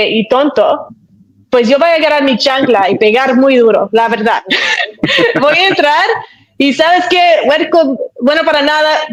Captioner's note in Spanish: risas